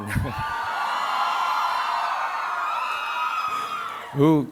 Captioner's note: audience cheering